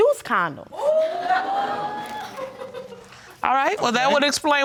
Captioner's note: laughing